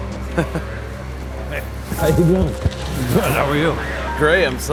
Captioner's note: laughter